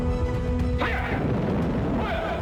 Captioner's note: bang